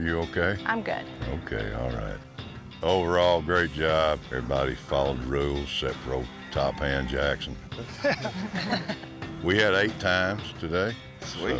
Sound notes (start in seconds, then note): 7.8 laughter